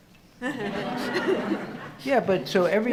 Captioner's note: audience laughing